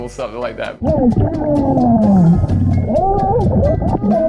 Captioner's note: underwater talking; underwater cheering